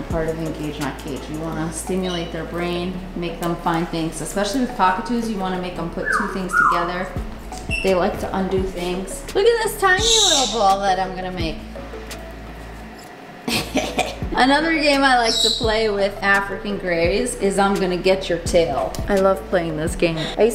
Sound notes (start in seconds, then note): 13.4 laughs